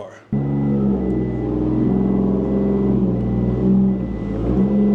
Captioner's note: engine revving